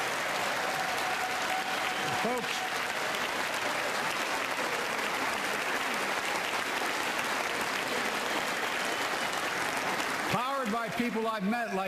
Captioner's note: applause